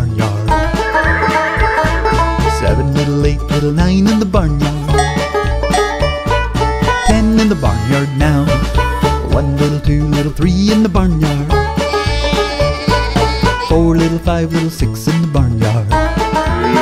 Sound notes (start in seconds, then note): 0.7 horse neighs; 11.7 sheep baas; 15.6 cow moos